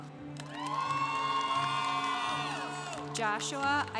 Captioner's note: congregation applauding